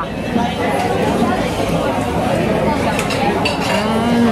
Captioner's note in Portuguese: ambiência de restaurante